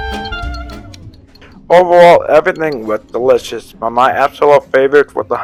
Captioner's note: voiceover